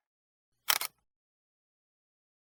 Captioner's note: clicking